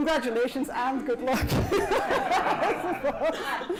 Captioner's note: laughter